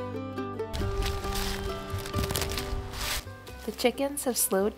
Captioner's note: leaves crunching